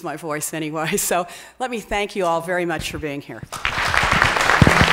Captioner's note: applause